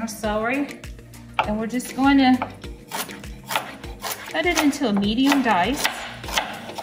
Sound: chopping

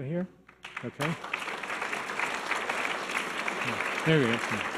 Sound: audience applause

